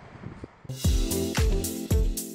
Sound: traffic humming; upbeat music

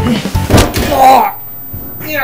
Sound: crash; groans in pain

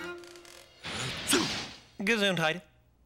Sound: sneezes

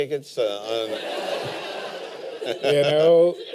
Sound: laughter

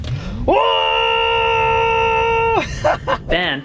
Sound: yelling

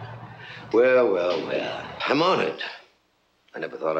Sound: laughs

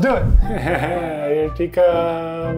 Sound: laughing

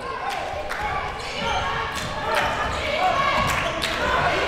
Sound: crowd

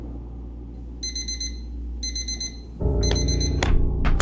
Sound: alarm clock beeping; beeping stops, can falls to floor

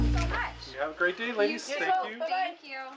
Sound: customer chatter

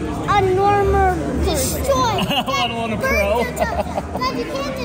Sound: laughs

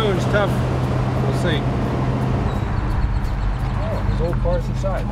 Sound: birds chirping

